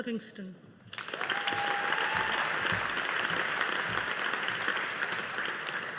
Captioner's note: audience applauding